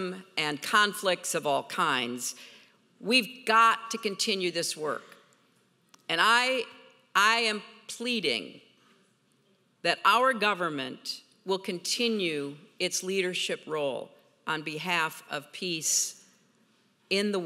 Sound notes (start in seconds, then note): none